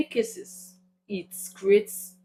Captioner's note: paause